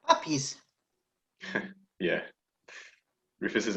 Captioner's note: laughs